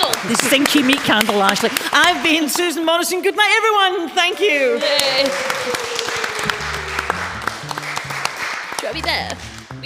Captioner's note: applause